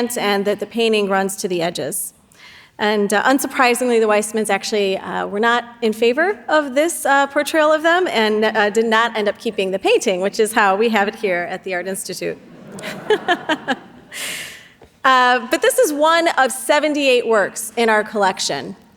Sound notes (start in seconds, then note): 12.4 everyone laughing